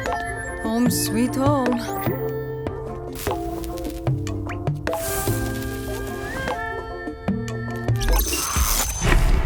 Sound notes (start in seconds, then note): 4.6 electricity crackling